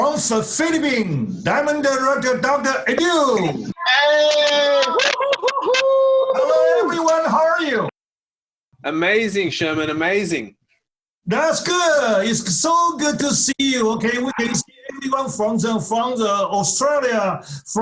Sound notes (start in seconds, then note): 3.2 cheers